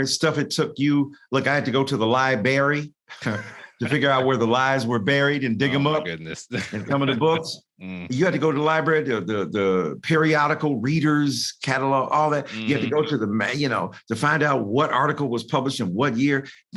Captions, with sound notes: Stuff it took you, like, I had to go to the lie-bury to figure out where the lies were buried and dig them up. - Oh, for goodness. (laughs) - Coming to books, you had to go to the library, the periodical readers, catalog, all that, you have to go to the, man, you know, to find out what article was published in what year.